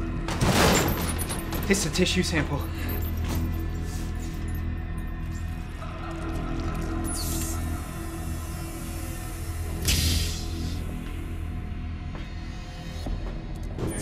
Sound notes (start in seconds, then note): 0.3 container thuds; 5.1 ooze squelching; 7.1 door hissing; 9.6 obscure music continues